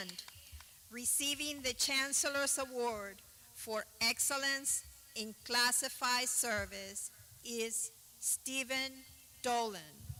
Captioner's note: clapping